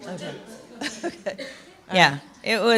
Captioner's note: laughter